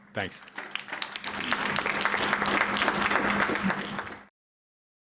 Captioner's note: applause